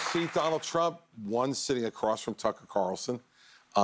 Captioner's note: applause